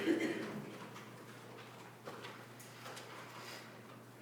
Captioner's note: student coughing